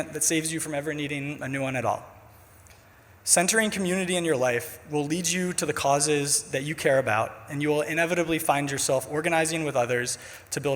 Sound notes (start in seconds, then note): none